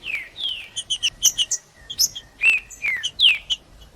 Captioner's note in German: trinca ferro cantando